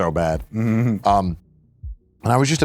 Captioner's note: giggles